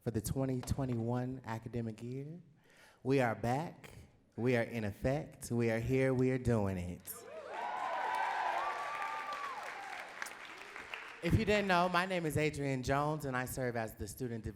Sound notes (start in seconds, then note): 7.2 audience cheering and clapping